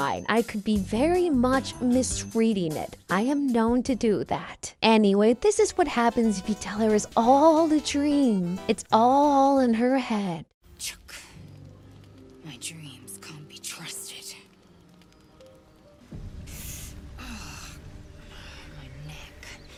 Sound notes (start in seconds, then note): 16.5 hisses in pain